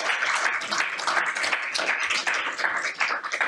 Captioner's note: applause